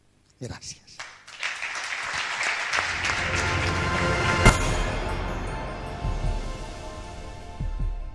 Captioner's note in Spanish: Aplausos